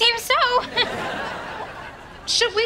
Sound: laughing

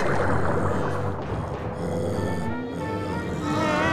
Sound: growling; screaming

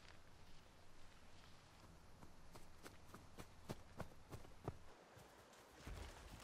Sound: footsteps

